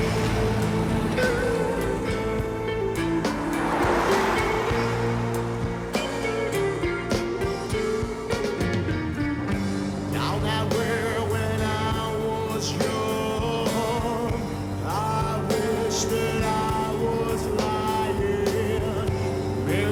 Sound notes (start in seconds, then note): 0.1 dramatic rock music; 3.9 car whooshes; 6.1 dramatic rock music